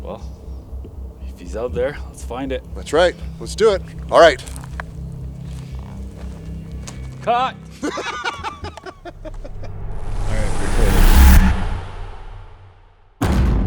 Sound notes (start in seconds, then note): 7.7 laughs; 9.4 pensive music